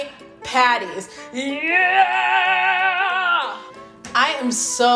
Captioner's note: yells